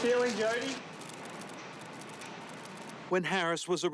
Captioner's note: camera shutters clicking